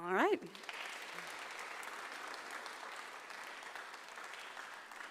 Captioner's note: audience applauds